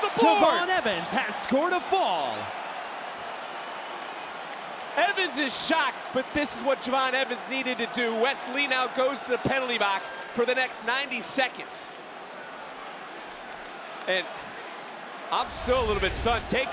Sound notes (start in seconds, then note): 3.8 crowd cheers; 11.8 crowd cheers